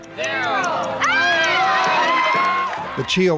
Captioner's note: cheering